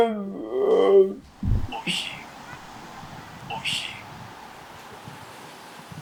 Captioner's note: achmet – artificial male voice